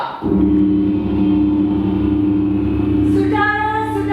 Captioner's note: gong sound